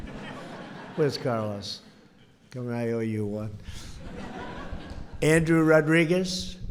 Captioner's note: laughter; laughter